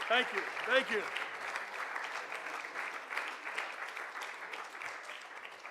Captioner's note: audience applauding